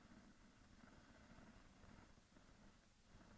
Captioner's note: none